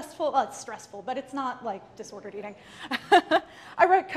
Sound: laughs

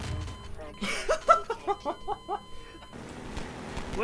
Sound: laughing in confusion

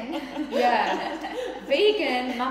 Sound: laughing

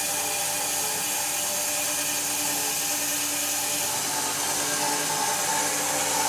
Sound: saw blade whirring continues

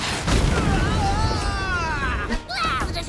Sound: yelling

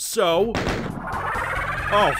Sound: Arch-vile noise

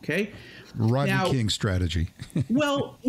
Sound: chuckles

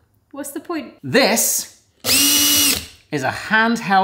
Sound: drill whines

